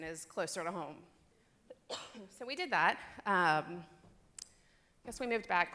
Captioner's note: cough